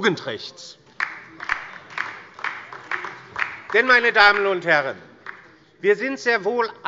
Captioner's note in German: Beifall der Abg